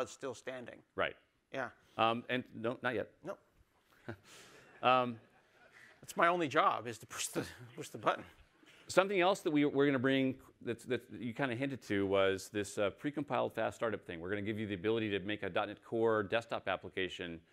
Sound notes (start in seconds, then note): 6.6 laughter